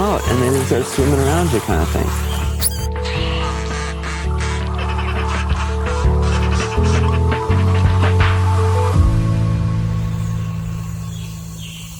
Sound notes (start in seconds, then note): 2.6 dolphin laughing; 10.7 jungle sounds; 10.7 orchestra tuning up